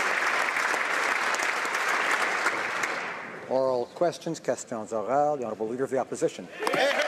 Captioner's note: applause